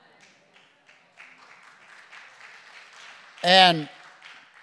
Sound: congregation applauding

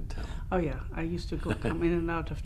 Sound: laughs

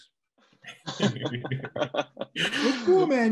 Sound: everyone laughing lightly

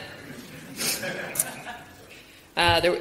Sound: audience laughs

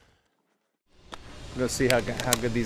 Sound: door closes

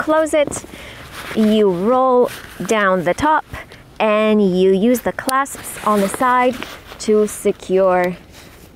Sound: buckles

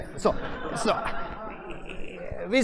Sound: laughter

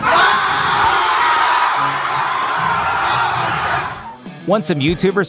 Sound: crowd cheering

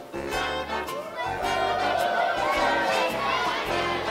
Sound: yelling

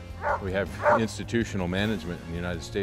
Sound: dogs barking

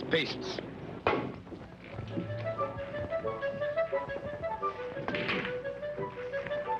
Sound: cue striking ball; whimsical classical music

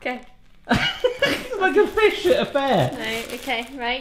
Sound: laughs

